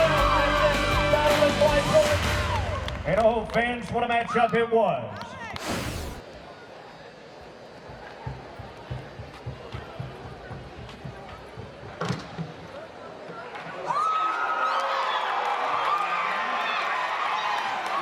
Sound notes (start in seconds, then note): 0.0 crowd cheers; 13.2 crowd cheers